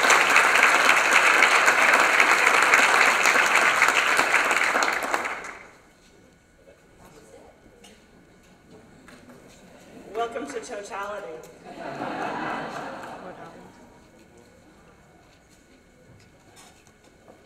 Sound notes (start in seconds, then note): 6.2 background talking; 11.6 laughter; 12.8 background talking